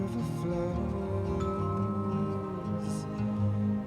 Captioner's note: doorbell rings